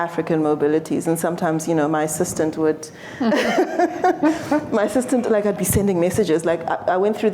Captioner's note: laughter